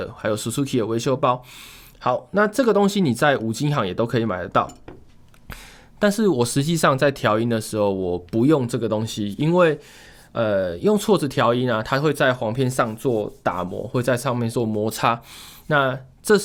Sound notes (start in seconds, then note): 12.5 rubbing